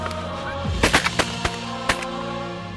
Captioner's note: gun shots